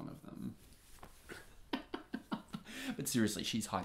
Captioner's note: Oscar laughs